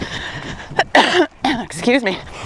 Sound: coughs

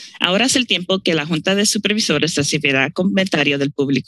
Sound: speaking in Spanish

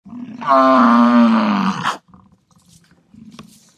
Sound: buffalo grunting

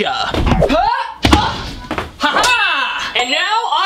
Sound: stomps loudly

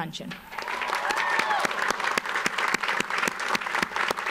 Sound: audience applauds

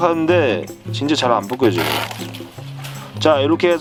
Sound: riiiiip!

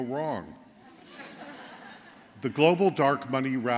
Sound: laughter

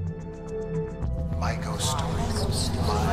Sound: collective voices

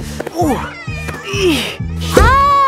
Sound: grunting

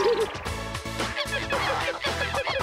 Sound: monkey cries

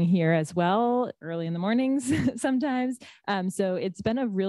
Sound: laughs

